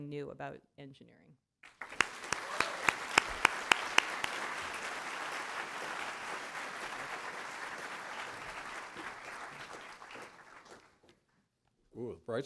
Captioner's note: applause